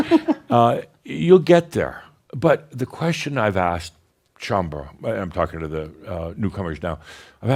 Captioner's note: they chuckle